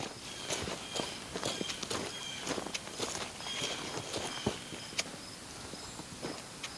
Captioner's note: bird calls